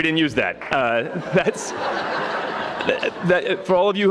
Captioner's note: audience laughing